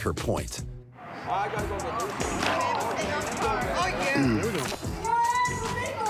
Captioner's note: indistinct chatter